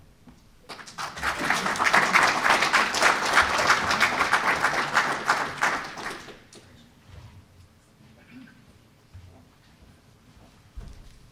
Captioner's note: applause